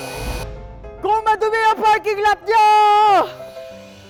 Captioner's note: shouting